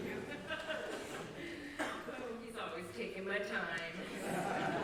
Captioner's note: laughter